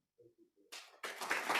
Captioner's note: applause